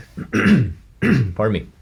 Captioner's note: clears throat